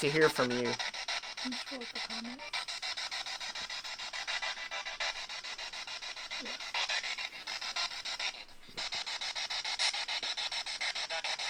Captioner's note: scanning